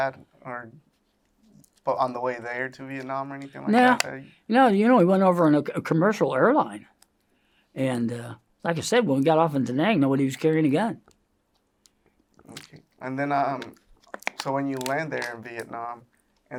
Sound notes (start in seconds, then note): 5.3 bottle top snaps; 13.5 sips